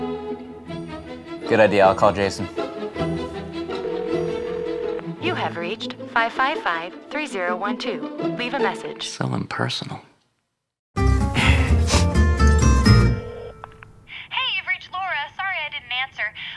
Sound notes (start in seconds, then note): 3.6 phone rings; 6.2 on phone; 14.5 on phone